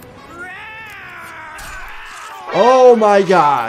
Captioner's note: screaming